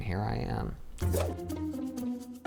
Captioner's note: inquisitive music; whoosh